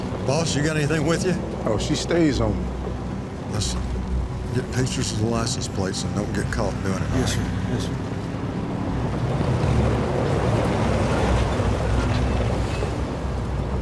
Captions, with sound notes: Boss, you got anything with you? - Oh, she stays on me. - Listen, get pictures of the license plates and don't get caught doing it. - Yes sir, yes sir. (car whirs)